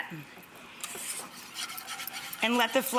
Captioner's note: whisk stirring